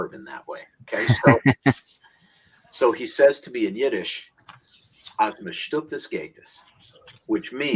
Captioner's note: speaks in Yiddish